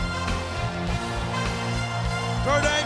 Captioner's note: audience cheering and clapping